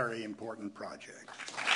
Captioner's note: applause